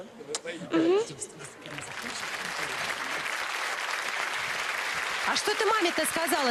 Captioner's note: applause